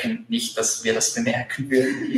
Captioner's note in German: lachen